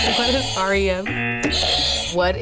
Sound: buzzer; buzzer rings

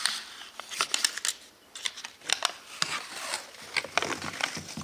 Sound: paper wrinkles

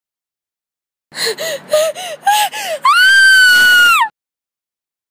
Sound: horror scream

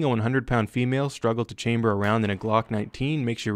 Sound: gunfire

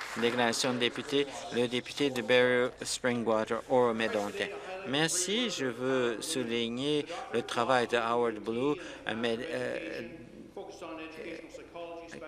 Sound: some Applause

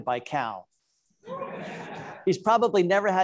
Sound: audience laughing

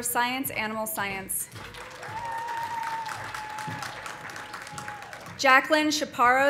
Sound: audience applauding; audience cheering

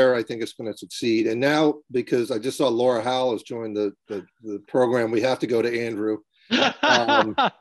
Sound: laughing

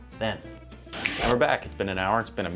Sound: snaps fingers

